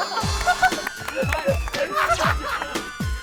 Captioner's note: laughing hard